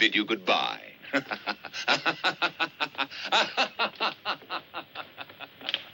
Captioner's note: laughs maniacally